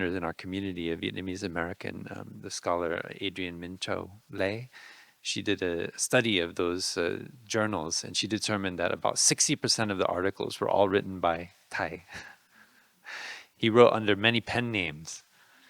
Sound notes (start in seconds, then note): 12.2 laughing